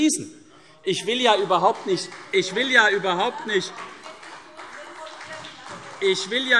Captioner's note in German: Beifall CDU und BÜNDNIS 90/DIE GRÜNEN - Zurufe